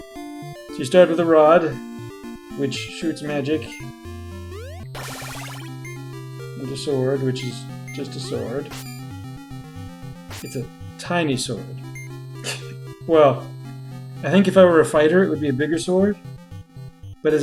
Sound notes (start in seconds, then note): 11.7 laughs softly